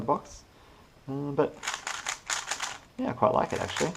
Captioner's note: cube noises